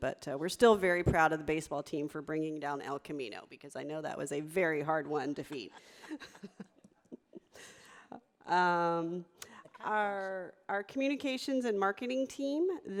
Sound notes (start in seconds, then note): 6.0 audience laughing